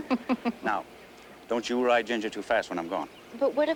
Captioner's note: sallie giggles